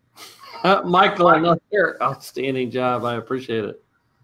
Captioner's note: laughs